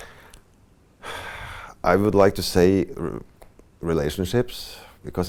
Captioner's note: sighs